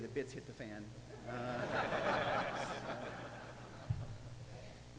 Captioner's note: audience laughing